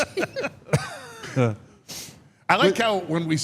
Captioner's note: laughs; Mark laughs